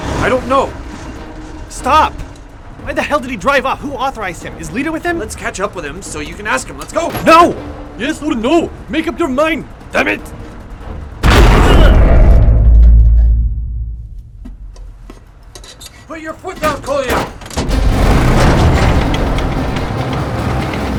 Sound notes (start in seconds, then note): 11.2 booming; 17.9 suspenseful music